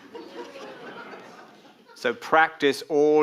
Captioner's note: audience laughing